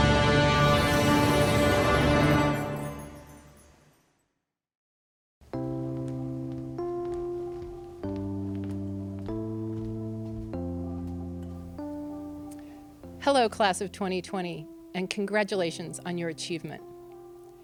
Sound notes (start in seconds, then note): 5.4 footsteps; 5.4 music: soft piano